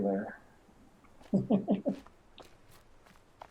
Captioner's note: chuckles